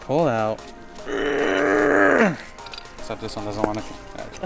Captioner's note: grunts